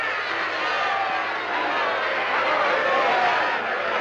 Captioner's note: crowd shouting